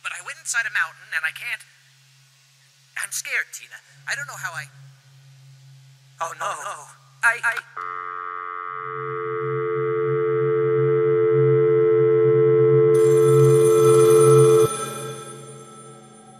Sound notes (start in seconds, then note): 7.8 dial tone; 12.8 phone ringing